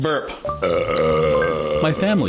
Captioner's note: burping